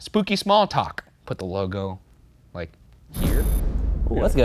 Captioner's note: air whooshing